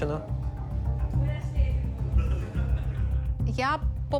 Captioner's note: team chattering